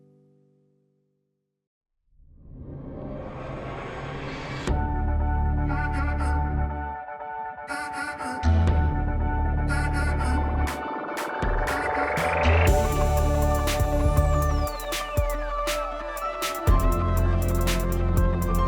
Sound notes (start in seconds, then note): 1.9 screen whooshes; 4.4 soft music